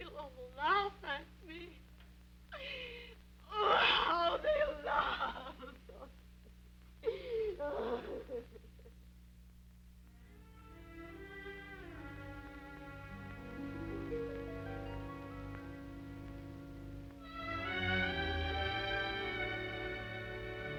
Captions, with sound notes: They'll all laugh at me. Oh, how they'll laugh! (sobbing) (pensive music) (gentle music)